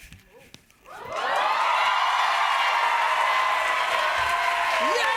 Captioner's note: cheers and applause